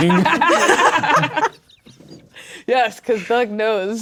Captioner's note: players laughing